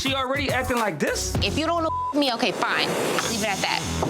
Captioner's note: beep